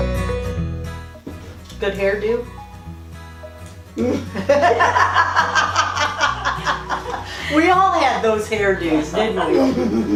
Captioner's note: laughter